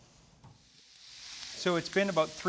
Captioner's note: shrimp sizzling